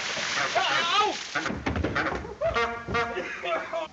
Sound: screaming; horn honking

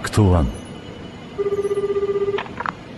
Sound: phone rings

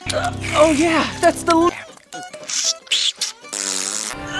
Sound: sucking noises; sucking noises continues

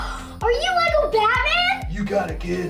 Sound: gasps

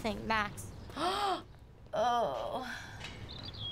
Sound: gasps and groans

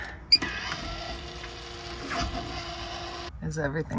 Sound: fan whirring

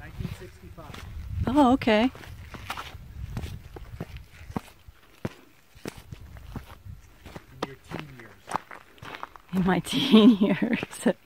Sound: laughing

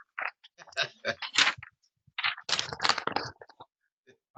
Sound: chuckling

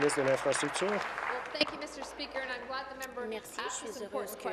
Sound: applause

